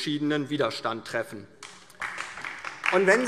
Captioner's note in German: Beifall DIE LINKE